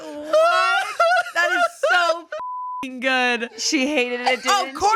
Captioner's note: beep